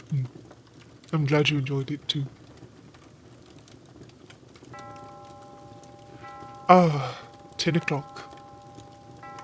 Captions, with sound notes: Hmm. I'm glad you enjoyed it, too. [Clock begins to chime 10 o'clock.] Ah, 10 o'clock.